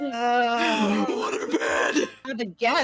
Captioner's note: gutturally